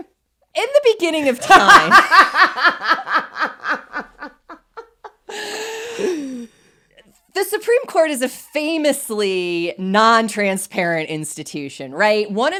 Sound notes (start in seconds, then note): 1.3 both laugh heartily